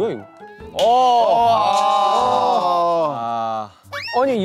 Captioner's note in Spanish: Los gemidos